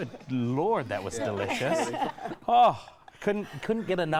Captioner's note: laughing